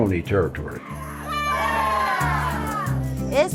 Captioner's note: cheering